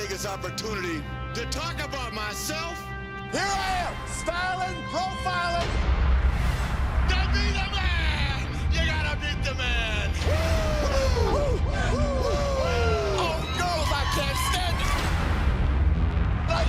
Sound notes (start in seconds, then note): 9.9 woos